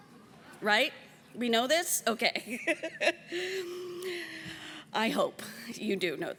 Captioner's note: laughs